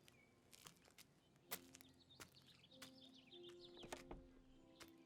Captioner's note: footsteps walking